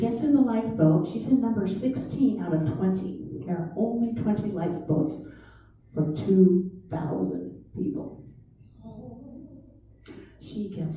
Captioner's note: chatter